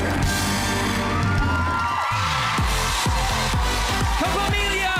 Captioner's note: applause